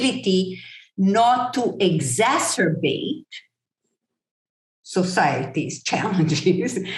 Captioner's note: chuckle